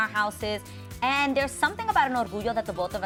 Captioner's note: speaking Spanish